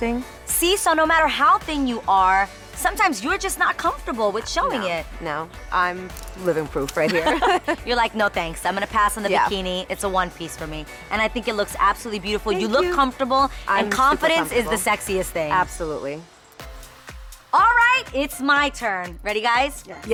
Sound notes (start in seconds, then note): 7.1 laughs